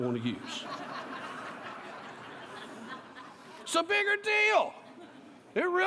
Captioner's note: laughter